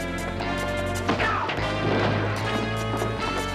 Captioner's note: yells; tense rhythmic music